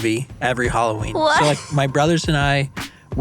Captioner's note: laughing